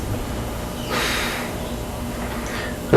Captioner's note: sighs